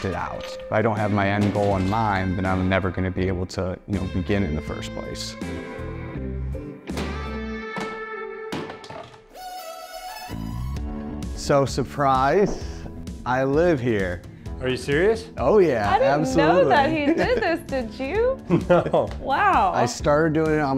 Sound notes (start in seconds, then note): 7.2 wood clinking; 18.4 laughs